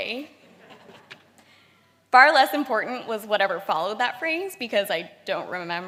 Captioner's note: laughter